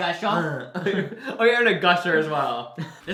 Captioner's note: both laugh